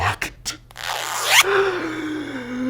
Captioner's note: zipper unzipping; gasping